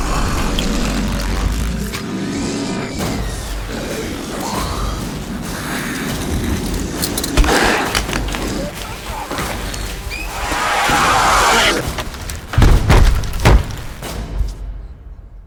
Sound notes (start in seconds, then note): 0.2 Ubuso growling; 0.2 door creaking; 7.4 Ubuso groaning; 7.4 tool thudding; 10.8 Ubuso growling; 12.5 door slamming